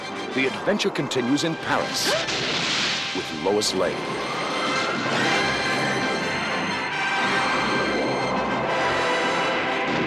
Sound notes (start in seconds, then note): 2.8 lois gasps